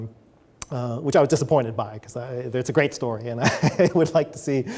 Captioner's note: chuckles